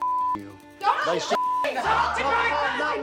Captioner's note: shouting